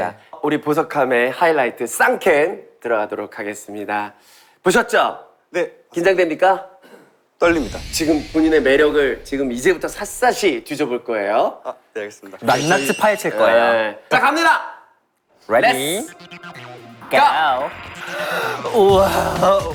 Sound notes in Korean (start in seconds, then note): 4.2 심호흡